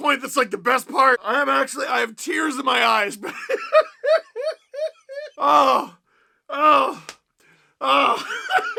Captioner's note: laughter continues; laughs some more